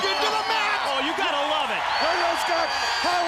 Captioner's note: crowd cheering